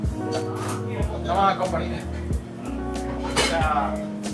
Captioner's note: indistinct chatter